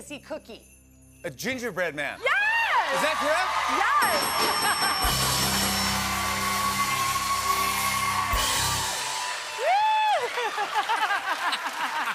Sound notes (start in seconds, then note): 4.0 dinging; 5.3 cheers and applause